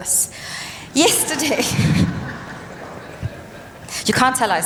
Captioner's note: laughter